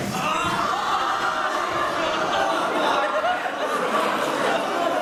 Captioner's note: cheers from audience members who get the inside joke